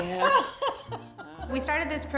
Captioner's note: laughter